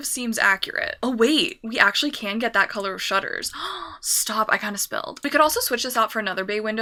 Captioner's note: gasp